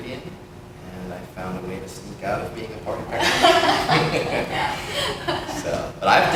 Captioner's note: laughter